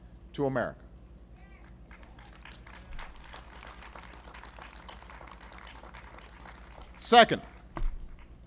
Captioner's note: applause